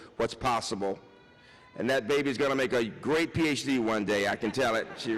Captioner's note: baby cries